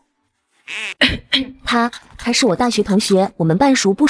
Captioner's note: cough cough